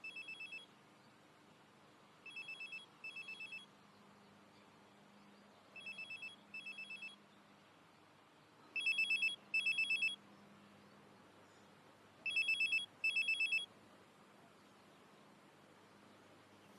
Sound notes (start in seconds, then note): 6.2 mobile phone rings